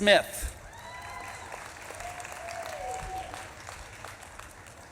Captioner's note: audience claps and cheers